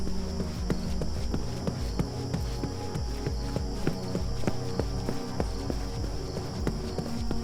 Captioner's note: tense music; footsteps thudding